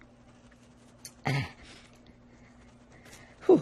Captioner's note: clears throat